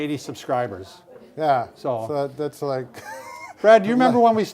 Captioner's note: chuckles